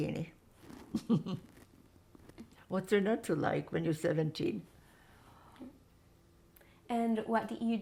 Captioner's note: laughing